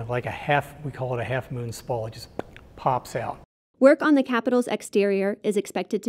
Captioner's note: pop